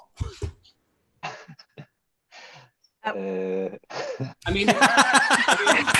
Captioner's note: chuckling; laughing